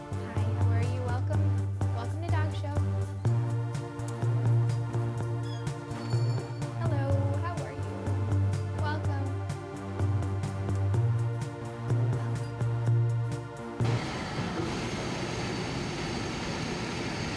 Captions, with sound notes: Hi! How are you? Welcome. Welcome to Dog Show. Hello. How are you? Welcome. [whispers] Welcome. (whooshing)